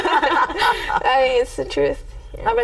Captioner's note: everyone laughing